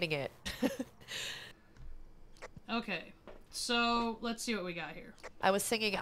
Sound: laugh

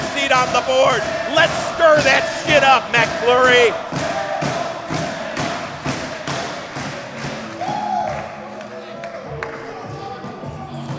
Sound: crowd chanting Dangle in the background

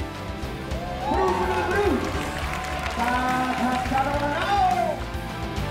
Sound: applause

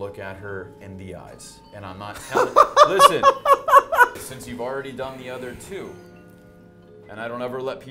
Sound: laughing

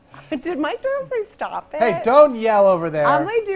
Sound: french accent

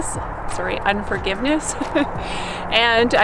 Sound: laughs

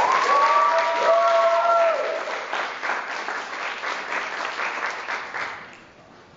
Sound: applause

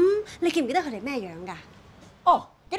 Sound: in Cantonese

